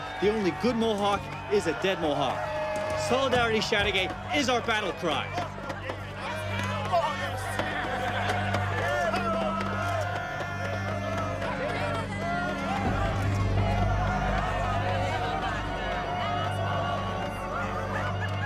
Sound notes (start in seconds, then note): 7.7 crowd laughing; 12.6 crowd cheering